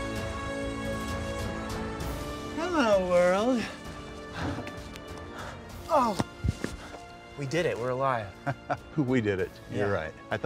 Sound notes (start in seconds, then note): 5.2 breathes heavily; 8.7 laughs